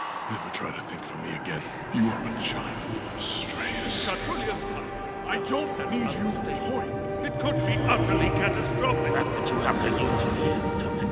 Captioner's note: layered voices and eerie whispers